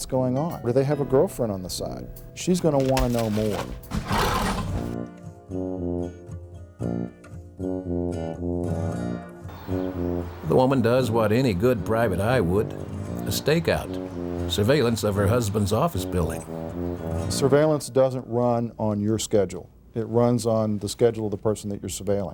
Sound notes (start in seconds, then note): 2.5 hangars scraping; 5.9 playful music